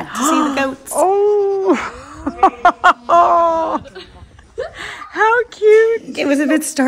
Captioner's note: laughs